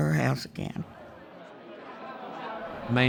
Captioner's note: people talking in background